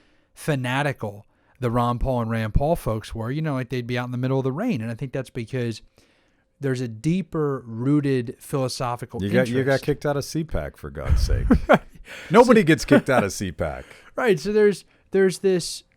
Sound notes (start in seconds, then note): 11.0 laughs